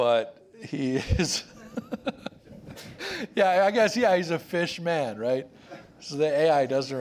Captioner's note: laughs